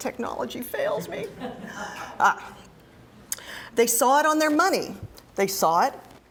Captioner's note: laugh